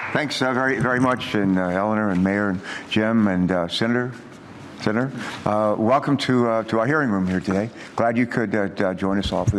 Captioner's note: applause